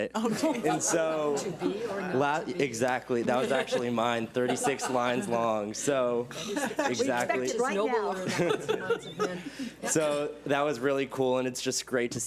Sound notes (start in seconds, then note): 0.2 laughs; 0.5 board members laugh; 8.8 and board members laugh